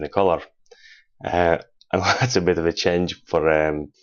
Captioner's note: chuckling